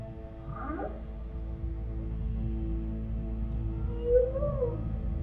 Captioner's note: whale whistles; whale chirps; whale bellows